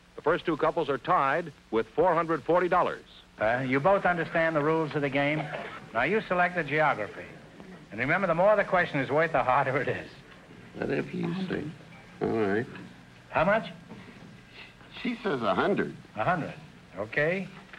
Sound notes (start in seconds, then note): 10.7 whispering